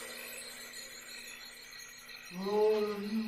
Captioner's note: crickets